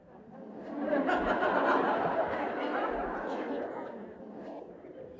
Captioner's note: laughter